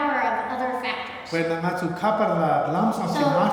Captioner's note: speaking tibetan